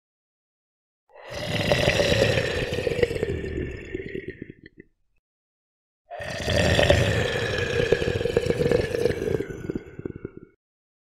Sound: monster moan

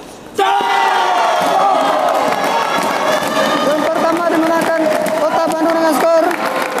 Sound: applause

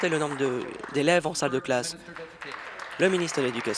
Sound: applause

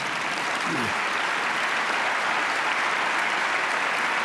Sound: applause

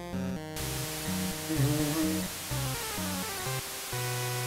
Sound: hums along

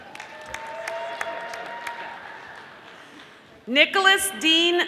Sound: audience applauding

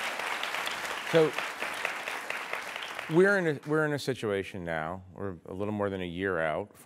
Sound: applause

